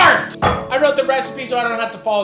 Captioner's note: book thuds